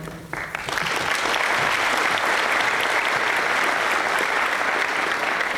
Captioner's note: applause